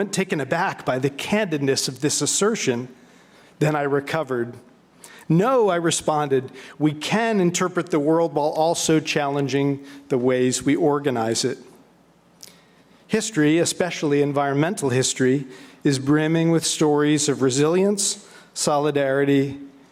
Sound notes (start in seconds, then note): none